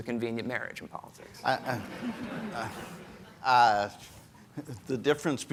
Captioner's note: audience laughing